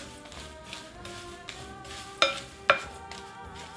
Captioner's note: stirring